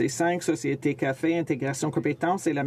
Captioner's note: speaking French